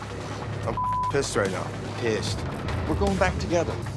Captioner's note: beep